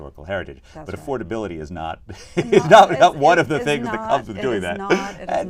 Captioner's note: laughs